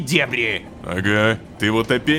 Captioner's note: pat